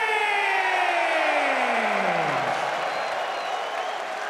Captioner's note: crowd cheering